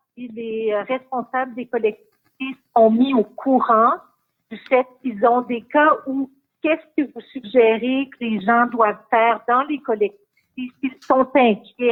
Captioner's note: speaking in French